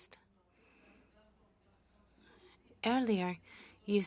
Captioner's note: speaking French